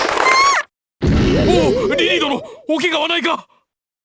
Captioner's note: shriek; gasp